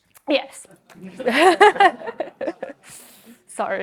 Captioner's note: chuckles